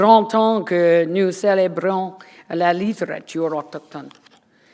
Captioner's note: foreign language